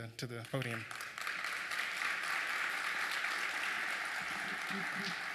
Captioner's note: applause